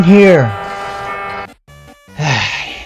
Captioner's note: loud blaring